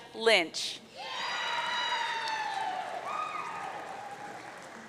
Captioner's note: audience cheering